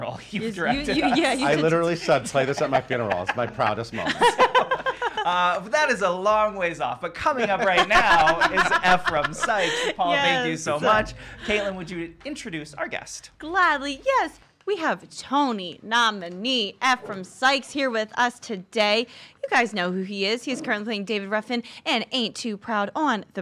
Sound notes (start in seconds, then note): 3.8 all laugh; 5.5 laugh